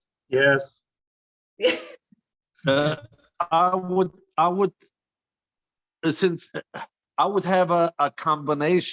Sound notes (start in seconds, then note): 1.6 laughter